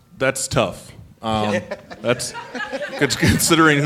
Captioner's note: laughter